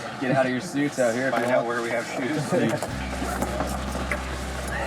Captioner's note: chattering